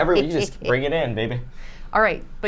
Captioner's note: snickers